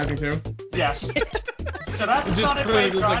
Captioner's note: giggles